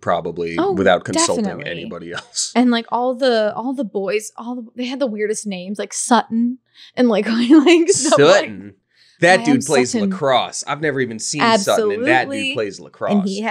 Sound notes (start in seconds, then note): 0.4 laughing; 7.4 laughing